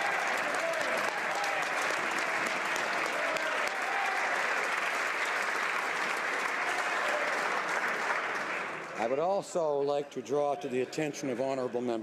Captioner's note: applause